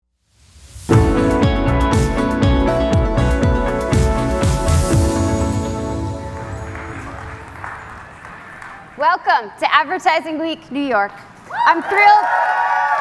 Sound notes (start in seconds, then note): 9.0 applause; 11.4 cheers and Applause